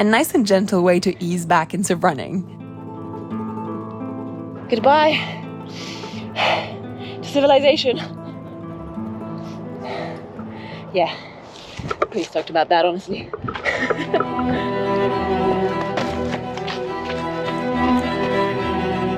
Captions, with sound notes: a nice and gentle way to ease back into running. Goodbye, (labored breathing) to civilization. Yeah, pretty stoked about that, honestly. (laughs) (passionate orchestral music)